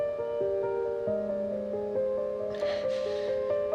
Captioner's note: Maggie crying